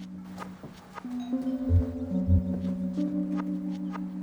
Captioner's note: doorbell ringing